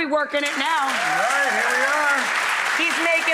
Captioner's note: applause